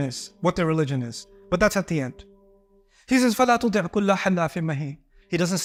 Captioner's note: Arabic